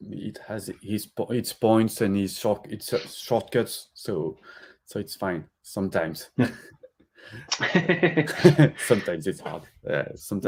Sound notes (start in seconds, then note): 7.4 laughter